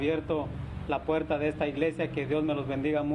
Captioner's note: speaking spanish